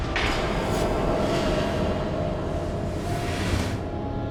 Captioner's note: haunting music; metal clanging